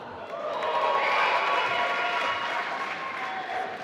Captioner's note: applause